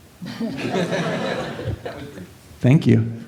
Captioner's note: audience laughs